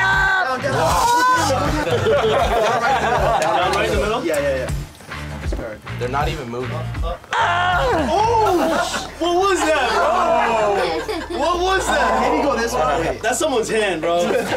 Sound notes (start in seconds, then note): 0.2 wails; 1.6 laughter; 7.2 wails